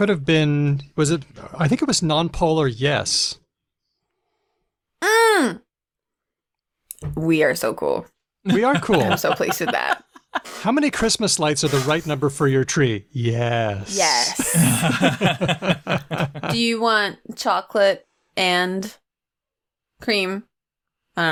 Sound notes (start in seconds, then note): 8.5 laughs; 14.3 laughter